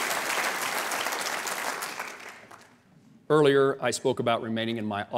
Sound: applause

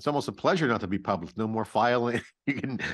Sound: chuckles

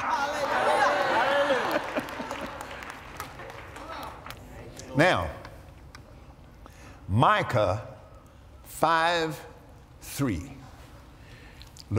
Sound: applause

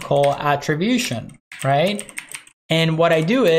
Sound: keyboard clacking

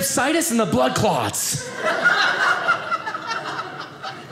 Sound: audience laughing

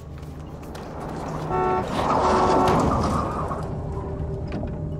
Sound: horn honks; thud

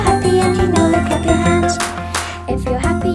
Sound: hands clapping

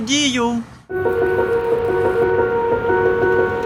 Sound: sounds of passing cars

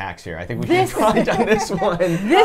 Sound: laughs

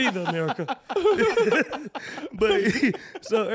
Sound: laughing

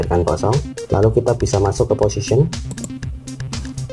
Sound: click

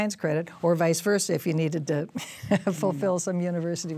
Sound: laughs

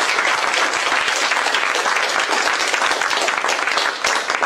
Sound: applause

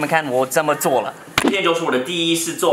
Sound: slap

